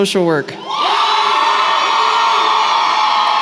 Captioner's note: cheering